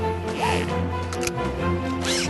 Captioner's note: click